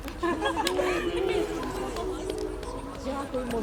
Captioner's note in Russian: сміх